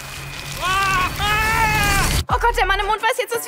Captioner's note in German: schreit